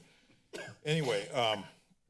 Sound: coughing

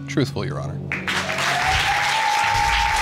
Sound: audience cheers

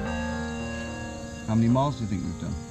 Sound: birds tweeting

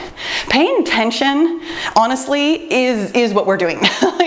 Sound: laughs

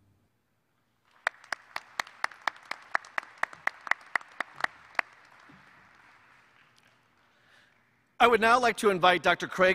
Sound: applause

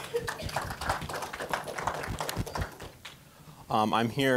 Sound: applause

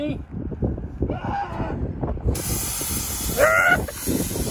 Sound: screams

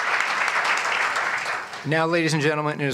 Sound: applause

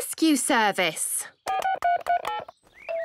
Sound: phone beeping

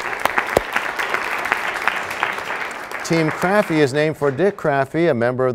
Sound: applause

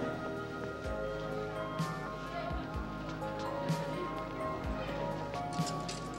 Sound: none

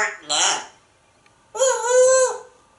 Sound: train whistle

